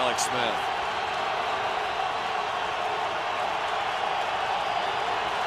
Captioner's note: crowd clamoring